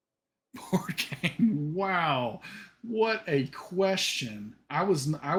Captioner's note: laughs